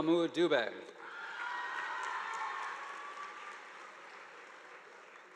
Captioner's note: audience applauding